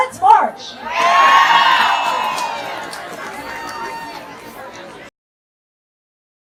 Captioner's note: cheers